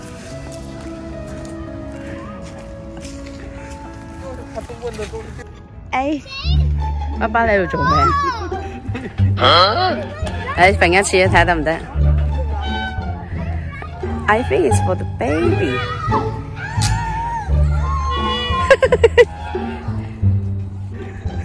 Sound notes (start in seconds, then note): 8.6 dad snickering